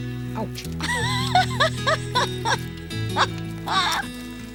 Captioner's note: Terri laughing